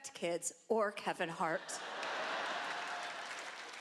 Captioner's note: laughter